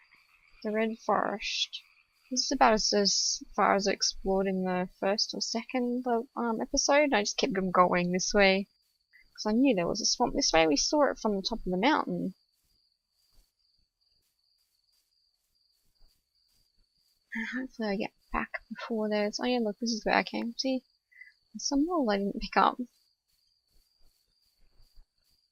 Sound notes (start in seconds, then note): 14.9 crickets chirping